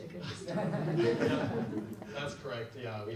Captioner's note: audience laughs